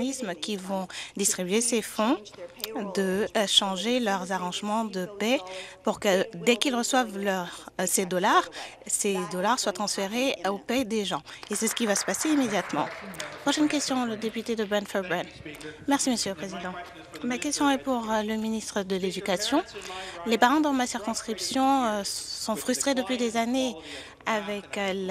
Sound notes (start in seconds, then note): 14.6 some Applause